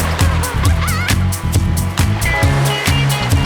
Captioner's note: laughing